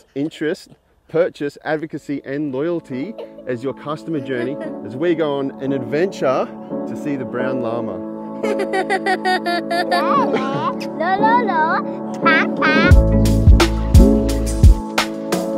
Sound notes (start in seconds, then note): 8.4 laughing; 12.8 upbeat music